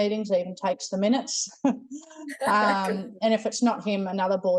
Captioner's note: chuckles